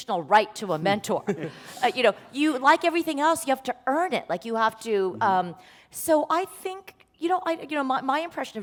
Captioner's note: laughter